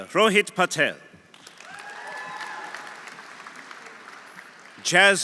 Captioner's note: audience applauding; audience cheering